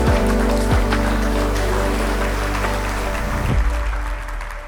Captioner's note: audience applauding